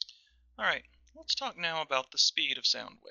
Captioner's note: voiceover